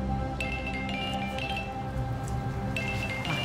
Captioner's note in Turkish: Telefon çalıyor